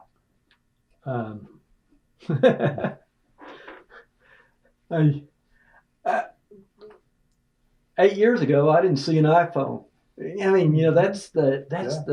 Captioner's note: laughter